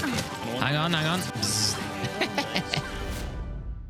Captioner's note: laughs